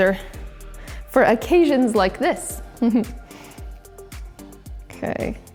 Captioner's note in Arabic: يضحك